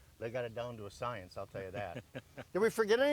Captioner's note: chuckles